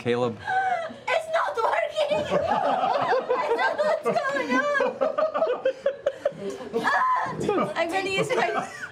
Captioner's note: crying